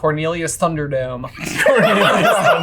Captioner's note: everybody laughing